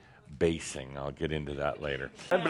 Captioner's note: none